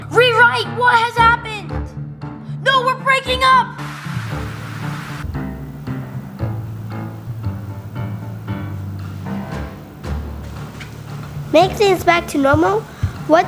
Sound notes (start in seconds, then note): 4.1 TV static; 7.8 intense music